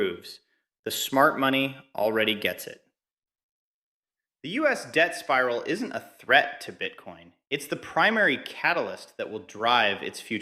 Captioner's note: excited